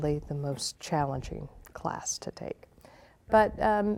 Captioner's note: none